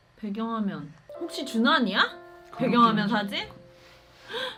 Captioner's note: gasp